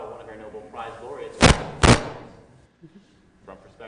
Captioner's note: static